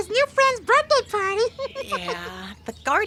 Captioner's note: laughing